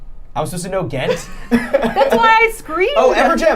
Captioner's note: laughing